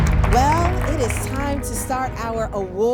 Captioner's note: crowd applauds